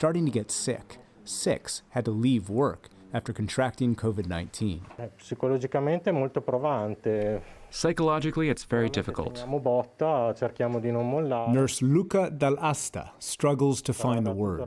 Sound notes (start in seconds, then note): 6.5 through translator